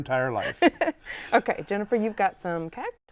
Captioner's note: laughter